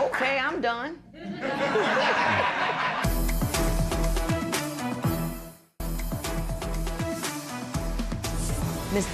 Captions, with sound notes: Okay, I'm done. [ Laughter ]